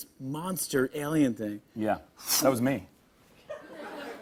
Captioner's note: light laughter